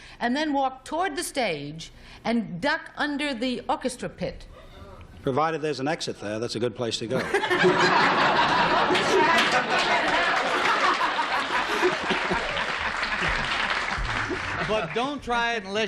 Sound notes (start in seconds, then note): 8.9 laughter; 12.3 applause